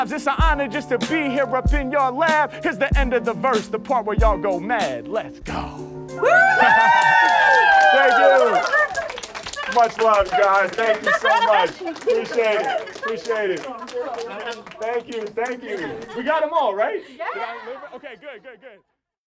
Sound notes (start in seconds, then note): 6.1 crowd cheers and applauds; 17.2 crowd